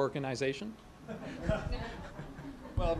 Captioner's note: laugh